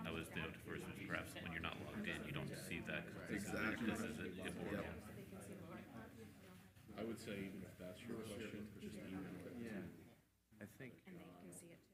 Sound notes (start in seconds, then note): 5.6 members chattering